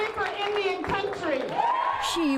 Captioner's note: cheering and applause